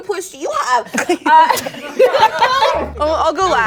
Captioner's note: laughing